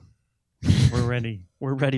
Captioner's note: both chuckling